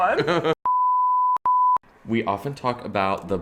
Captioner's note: electronic beeping